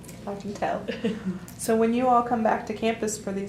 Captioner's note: laughter